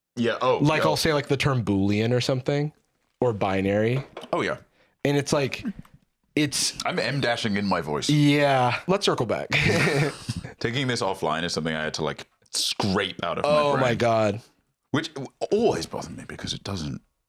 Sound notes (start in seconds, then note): 9.5 both laugh